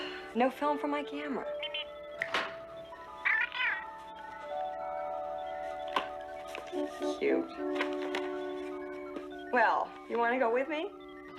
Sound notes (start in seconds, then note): 0.0 sighs; 2.1 Steve Trevor snaps his Fingers